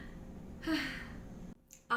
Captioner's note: sigh